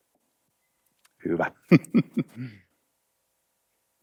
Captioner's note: chuckles